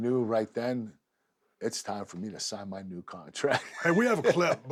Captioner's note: laugh